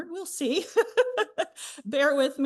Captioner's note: representative chuckling